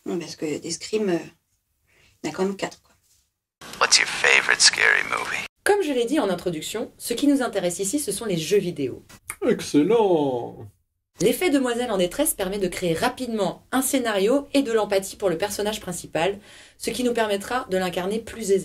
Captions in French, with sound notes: Des Scream, y'en a quand même quatre, quoi... *Voix au téléphone* What's your favorite scary movie ? omme je l'ai dit en introduction, ce qui nous intéresse ici ce sont les jeux vidéos Excellent ! l'effet "demoiselle en détresse" permet de créer rapidement un scénario et de l'empathie pour le personnage principal ce qui va nous permettra de l'incarner plus aisément.